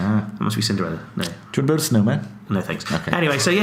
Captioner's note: speaks a different language